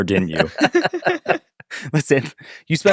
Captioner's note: group laughs